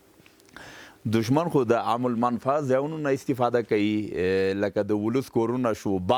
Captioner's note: speaking in a foreign language